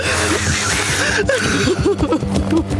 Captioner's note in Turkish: ağlıyor